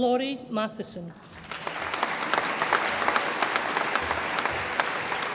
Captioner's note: audience applauds